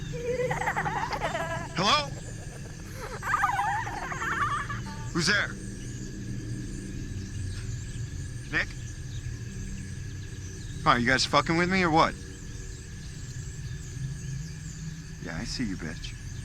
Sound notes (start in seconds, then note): 0.0 creepy Echoing Ghostly Laughter; 3.0 creepy Ghostly Laughter Gets Louder; 9.4 crickets Chirping